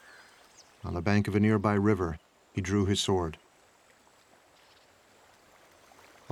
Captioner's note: none